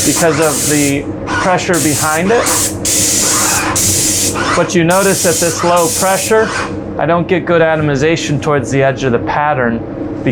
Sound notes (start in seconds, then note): 1.7 sprayer whirring; 1.7 spray gun hissing